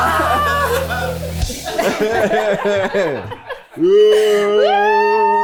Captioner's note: everyone laughs